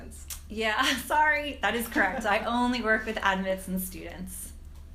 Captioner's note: laugh